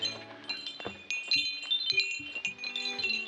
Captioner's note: chiming